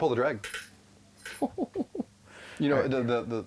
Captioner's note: chuckles